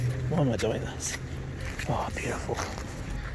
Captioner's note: shoes crunching on the ground